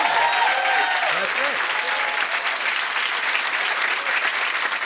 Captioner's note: cheers and applause